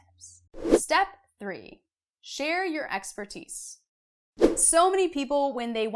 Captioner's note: air whooshing; air whooshing